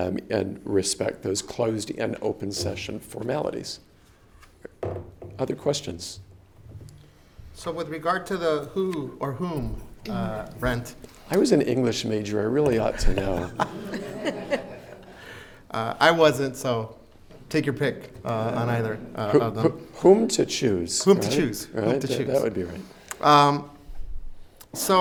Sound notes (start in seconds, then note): 13.0 everyone laughs